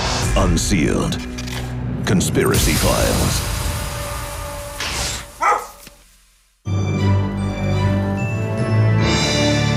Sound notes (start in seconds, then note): 5.4 dog bark; 6.6 orchestral music